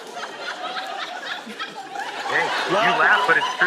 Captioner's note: audience laughs